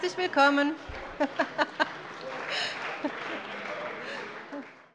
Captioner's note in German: Allgemeiner Beifall